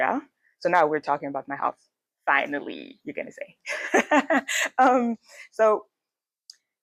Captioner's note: laughs